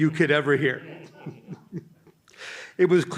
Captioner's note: chuckling